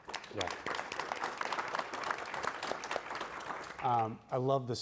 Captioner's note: applause